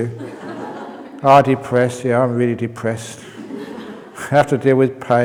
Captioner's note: laughter; laughter